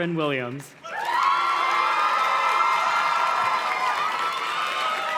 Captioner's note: audience cheers and claps